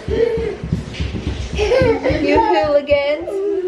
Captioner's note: boys laughing